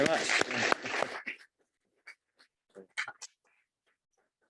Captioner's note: applause